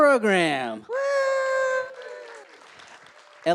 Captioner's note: applause